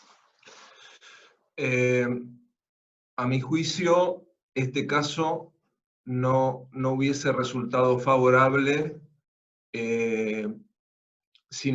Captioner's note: Spanish